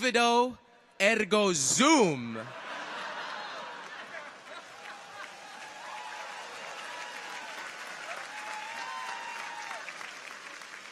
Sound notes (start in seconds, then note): 0.0 continues to speak in Latin; 2.4 audience laughs; 2.9 audience applauds